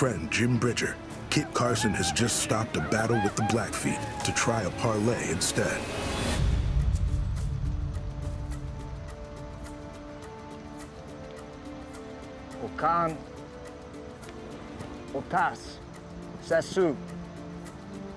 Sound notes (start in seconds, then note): 6.2 tense music; 12.4 speaks blackfeet; 16.6 speaking blackfeet